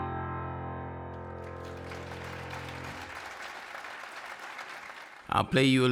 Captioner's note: audience applauding